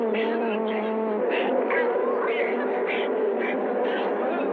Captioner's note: whimpering